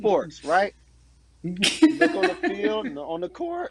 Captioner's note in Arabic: تضحك